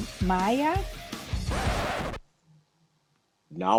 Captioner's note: record scratch